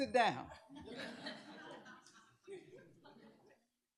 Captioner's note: laughter